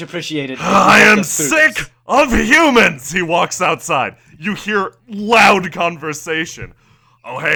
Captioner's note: growls